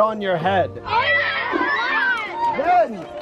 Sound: cheering

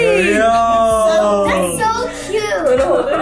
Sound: group exclaims

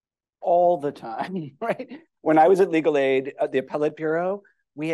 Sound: laughter

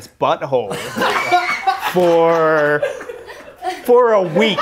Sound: laughter

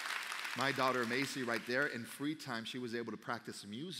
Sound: applause

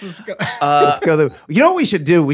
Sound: laughs

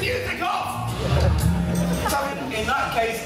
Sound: laughter

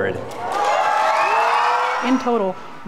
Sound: applause

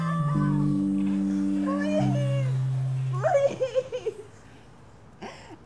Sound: sobs

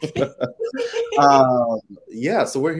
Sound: both laughing

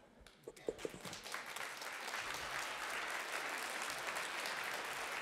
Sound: applause

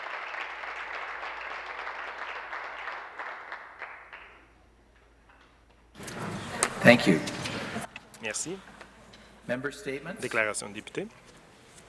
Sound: applause

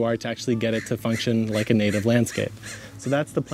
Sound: bird caws

